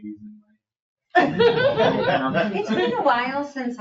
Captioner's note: all laughing